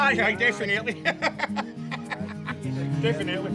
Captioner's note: laughs